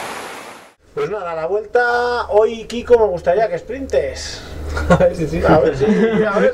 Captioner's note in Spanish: risas